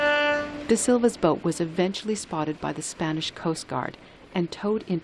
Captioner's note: voice-over